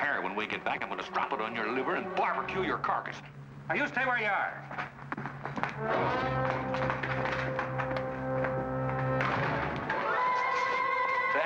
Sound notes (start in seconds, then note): 6.6 boots scurrying; 8.5 suspenseful music